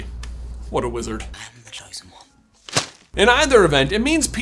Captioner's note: thwap